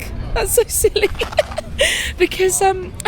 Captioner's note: laughs